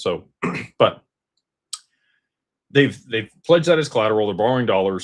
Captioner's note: clears throat